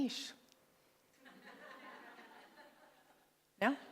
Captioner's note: laughter